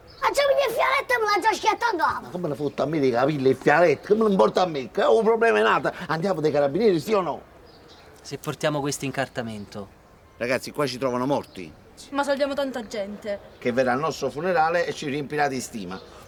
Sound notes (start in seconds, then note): none